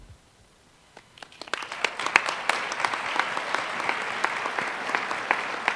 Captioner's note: applause